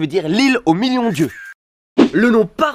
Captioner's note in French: Crépitement appareils photos